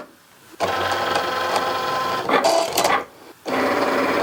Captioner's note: Cricut humming